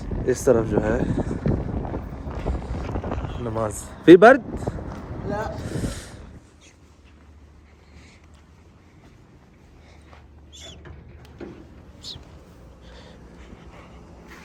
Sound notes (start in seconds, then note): 3.9 Arabic